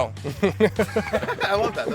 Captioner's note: laughs